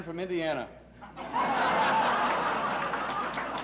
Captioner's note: laughs; applauses